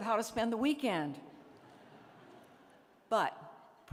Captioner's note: laughter